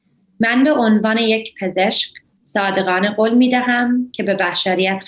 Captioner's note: speaks in foreign language